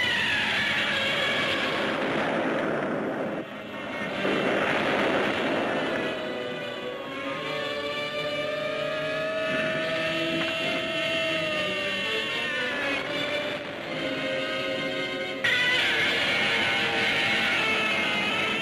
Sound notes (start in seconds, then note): 0.0 Gammera screeching; 0.0 tower rattling; 3.8 sirens wailing; 11.6 dramatic orchestral music; 15.8 Gammera roars